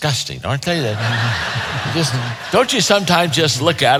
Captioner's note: audience laughing